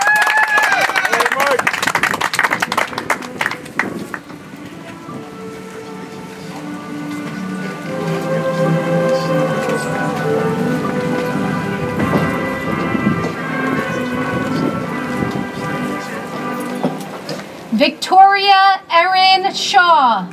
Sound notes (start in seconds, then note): 3.2 audience applauds; 8.1 soft music